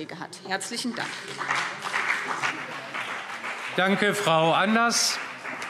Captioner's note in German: Beifall BÜNDNIS 90/DIE GRÜNEN und CDU